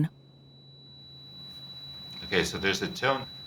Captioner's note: ringing